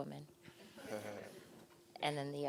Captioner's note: laughter